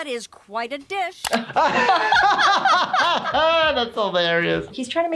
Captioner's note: laughing